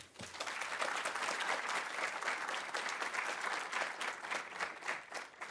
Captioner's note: audience applauding